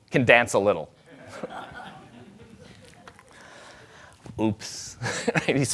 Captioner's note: audience laughing